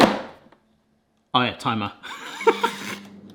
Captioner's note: laughs